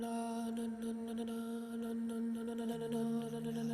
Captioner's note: chanting